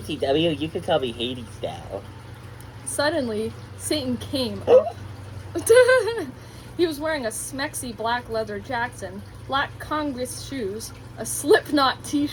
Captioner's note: moan, gasp